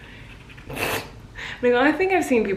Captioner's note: laughs